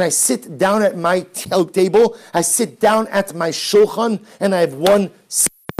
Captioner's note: no audio--static